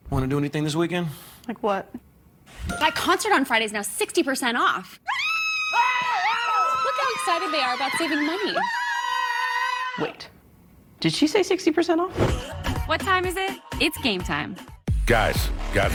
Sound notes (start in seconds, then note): 5.0 both scream